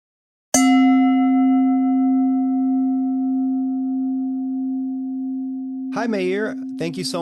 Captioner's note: bell dings